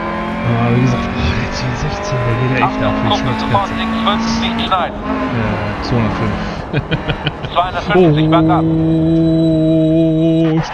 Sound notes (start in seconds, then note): 5.4 laughs